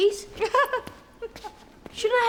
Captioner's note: Alice laughing